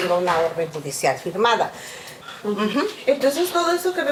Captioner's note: continues speaking in Spanish; student speaking in Spanish